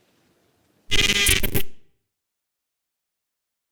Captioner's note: static buzzes